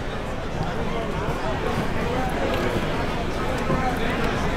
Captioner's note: crowd talking